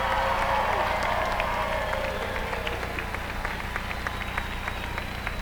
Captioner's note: applause